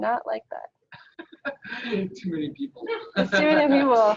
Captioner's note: laughs